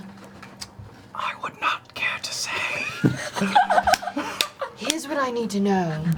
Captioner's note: whispers